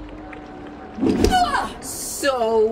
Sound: low groans

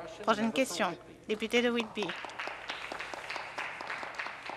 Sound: some Applause

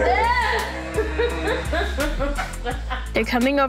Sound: laughs

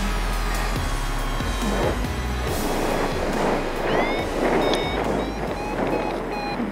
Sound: wind whooshing; alarm sounds; alarm accelerates

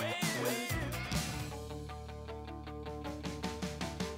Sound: echoing

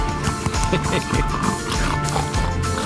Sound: snorts; laughter

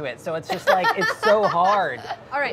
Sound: laughing

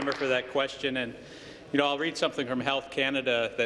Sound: applause

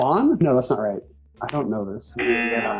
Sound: buzzer

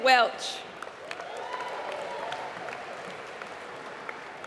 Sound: applause

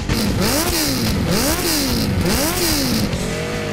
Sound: engine revving

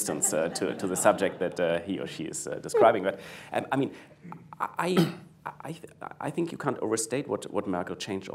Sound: laughter

